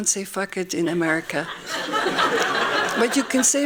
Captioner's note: laughing